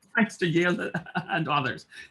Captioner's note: chuckles